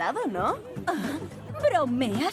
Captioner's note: scoffs